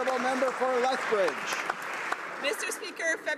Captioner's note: applause